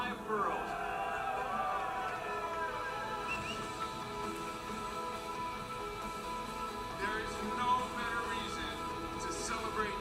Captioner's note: applause